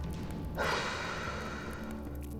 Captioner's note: sighs